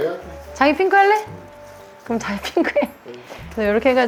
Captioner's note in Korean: 웃음